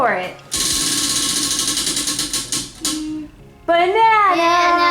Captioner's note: wheel clicks